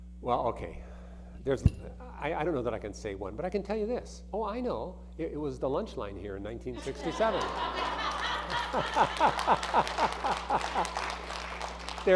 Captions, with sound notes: - Well, okay, there's, I don't know that I can say one, but I can tell you this. Oh, I know it, it was the lunch line here in 1967. (audience laughing) (audience applauding)